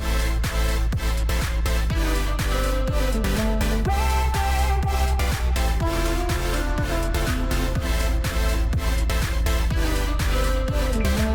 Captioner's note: capacitor charging